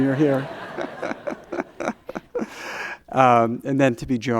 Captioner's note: chuckles